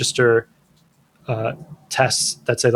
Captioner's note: uh